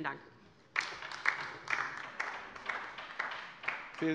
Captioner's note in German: Beifall bei der LINKEN